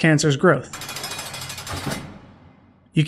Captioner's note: A jail cell door closes